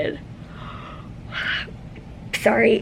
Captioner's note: yawns